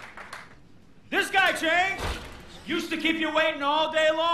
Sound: applause

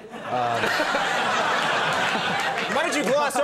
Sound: audience laughs

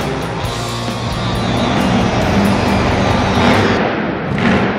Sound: truck engine revs

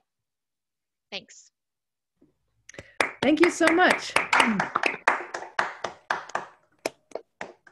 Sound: clapping

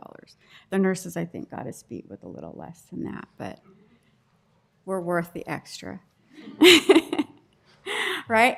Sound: laughter

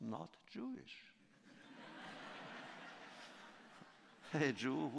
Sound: laughter

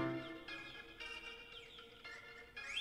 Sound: phone rings

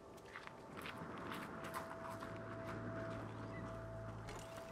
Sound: wind blowing

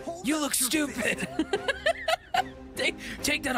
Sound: laughter

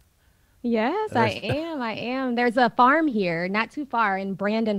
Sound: Sadhguru laughs

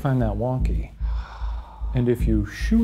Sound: sighs

